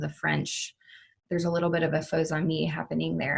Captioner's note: speaking foreign language